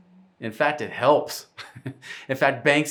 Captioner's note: chuckling